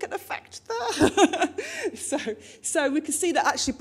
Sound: laughs

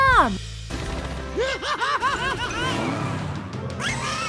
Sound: laughing

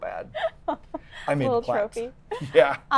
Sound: laughs

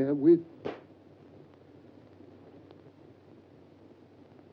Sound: gunshot blares

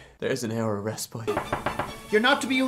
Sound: knocking

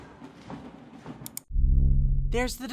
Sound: clicking

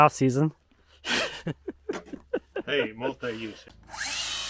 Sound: both laughing

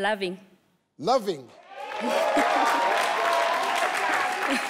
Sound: people applauding

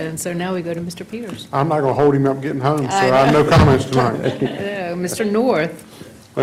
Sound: laughter

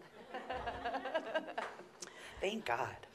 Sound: laughing

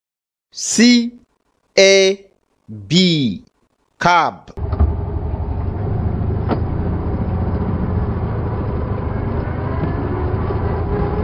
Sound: cab Sound

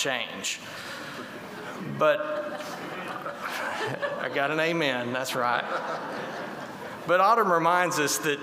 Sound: laughter

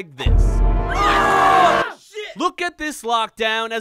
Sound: animals yelling

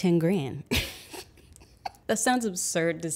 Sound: laughs

